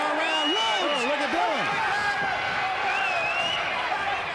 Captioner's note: fans cheering